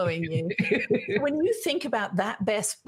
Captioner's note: laughing